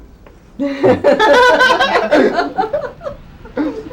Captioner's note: all laugh